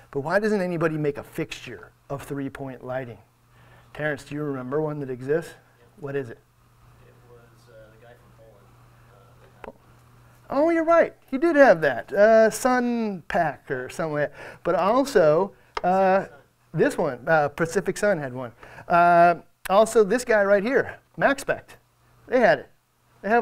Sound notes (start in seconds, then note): 14.5 speaks softly